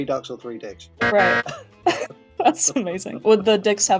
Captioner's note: loud incorrect buzzer